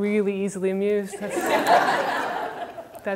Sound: audience laughter

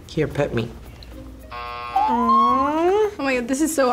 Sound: buzzer

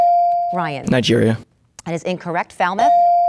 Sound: dinging

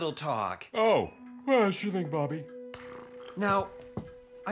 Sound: yawning

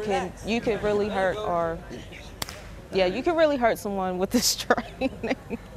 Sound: laughs

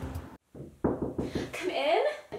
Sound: knocking on the Door

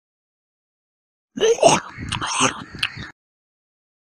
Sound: sound of zombie

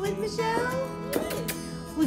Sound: kissing sound

